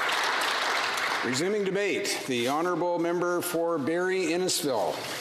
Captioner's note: applause